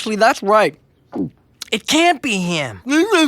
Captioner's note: gulping